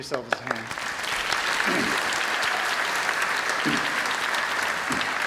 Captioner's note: applause